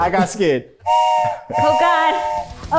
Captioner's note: whistle blows